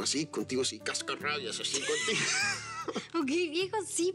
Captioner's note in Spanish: Risas